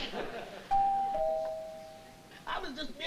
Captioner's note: door bell